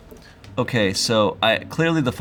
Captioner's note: none